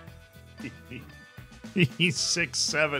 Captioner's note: laughs